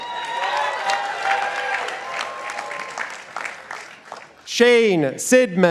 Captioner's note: participants applauding